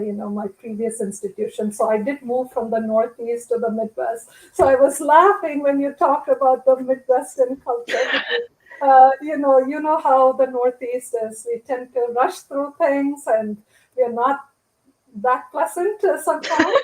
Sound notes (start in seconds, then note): 7.9 laughter